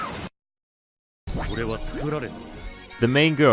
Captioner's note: screams in Japanese; silence; male Japanese voice